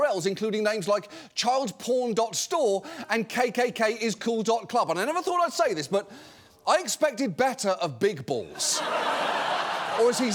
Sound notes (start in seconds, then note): 8.5 audience laughing